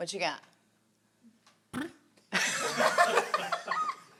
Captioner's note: blows raspberries; all laugh